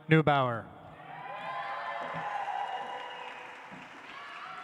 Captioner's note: audience applauds